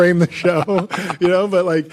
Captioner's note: laughs